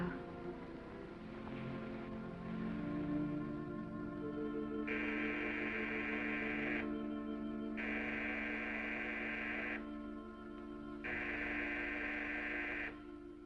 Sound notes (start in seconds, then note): 0.3 gentle music; 4.9 doorbell ringing